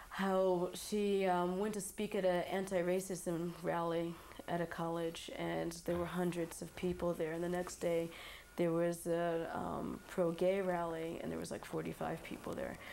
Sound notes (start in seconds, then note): none